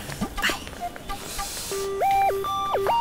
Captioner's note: Gauravi exhales